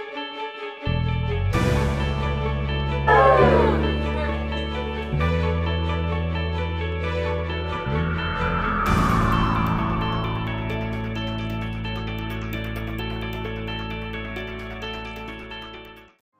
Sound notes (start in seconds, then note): 3.1 cheer: Whooo!